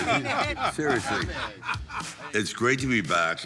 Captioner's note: group laughing